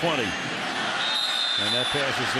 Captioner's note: whistles